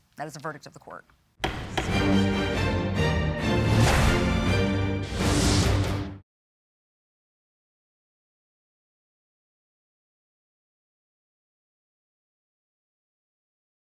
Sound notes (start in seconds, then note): 1.4 gavel banging; 1.4 tense rhythmic music returns; 4.1 air whooshing